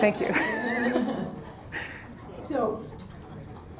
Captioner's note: laughter